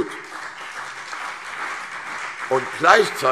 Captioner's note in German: Beifall CDU und BÜNDNIS 90/DIE GRÜNEN